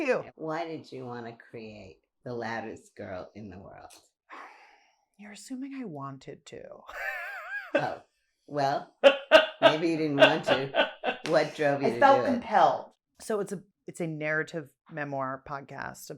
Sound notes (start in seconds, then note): 7.7 laughs